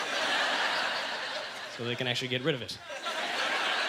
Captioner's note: audience laughter